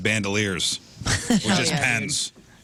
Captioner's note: laughing